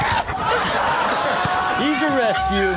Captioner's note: audience laughs